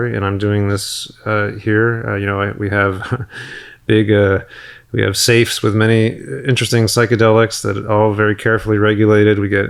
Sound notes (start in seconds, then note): 2.9 chuckles